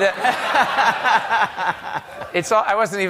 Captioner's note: laughter